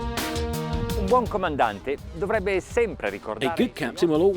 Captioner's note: speaking in foreign language